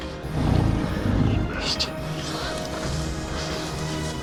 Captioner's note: thunder